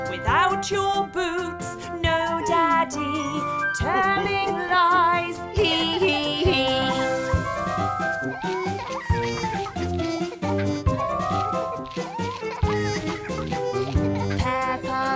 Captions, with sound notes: Yeah. (SINGING) Yes, daddy. Without your boots? No, daddy. Telling lies, he, he, he. [peppa giggling]